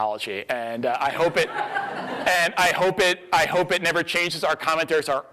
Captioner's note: audience laughs